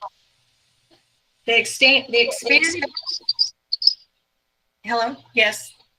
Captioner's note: audio glitch